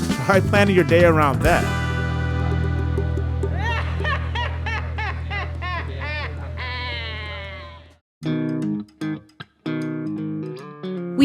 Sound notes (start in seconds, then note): 3.3 maniacal laughter; 8.2 upbeat guitar music